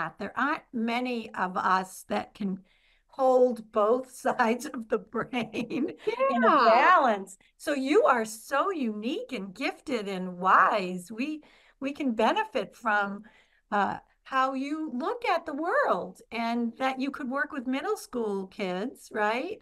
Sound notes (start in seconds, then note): 5.8 laughs